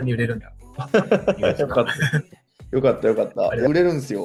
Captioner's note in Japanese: 笑い